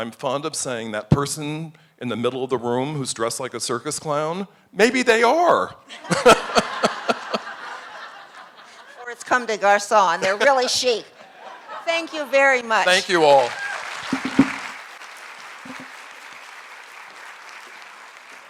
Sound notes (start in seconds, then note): 5.9 laughter from audience